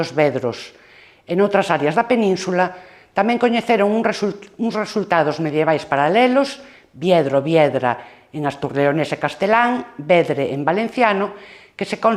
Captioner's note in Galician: en valenciano